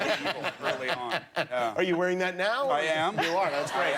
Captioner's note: laughter